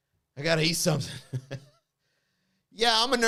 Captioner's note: chuckles